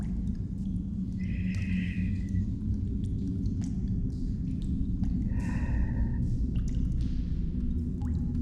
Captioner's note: breathing